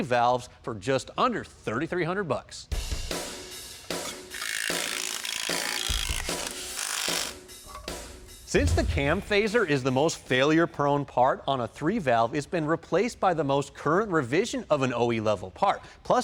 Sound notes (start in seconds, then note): 3.2 upbeat music; 3.9 bolts unscrewing